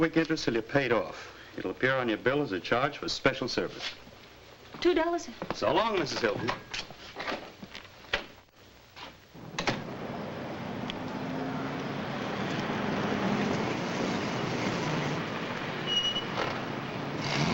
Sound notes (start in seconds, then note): 9.5 door thuds shut; 9.8 vehicle rumbling